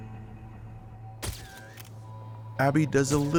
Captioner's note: camera shutter clicking